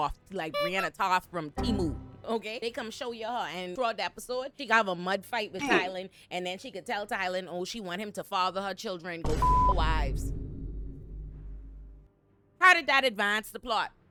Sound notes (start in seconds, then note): 9.3 beep